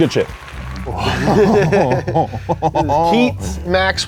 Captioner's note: laugh